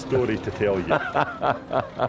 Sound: laughs

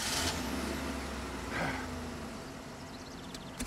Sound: sighs

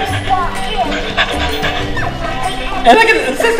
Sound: dog panting

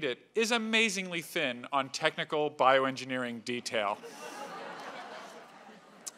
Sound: laugh

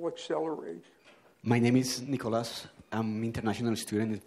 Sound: voiceover

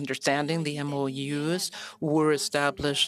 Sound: speaking French

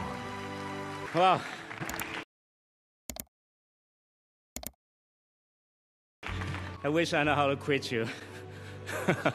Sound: laughter

